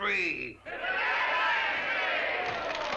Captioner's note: crowd cheers; chatter & applause